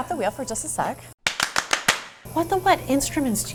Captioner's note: hands clapping